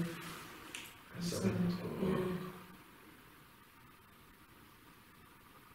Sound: mumbling

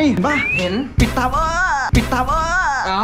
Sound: mocking

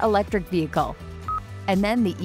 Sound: device beeping

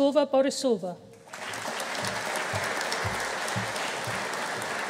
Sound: audience applauding

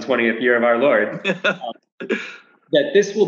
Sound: laughs

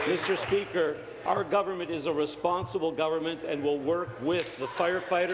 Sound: applause

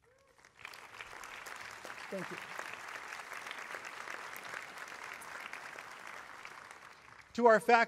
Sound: applause

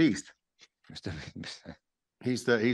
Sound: chuckles

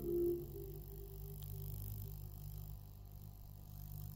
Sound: magnet vibrates

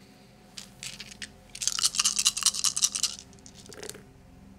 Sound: dice rattling

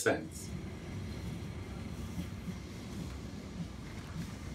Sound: tram engine roaring

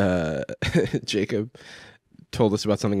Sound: laughs

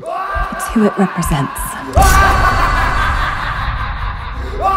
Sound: maniacal laughing

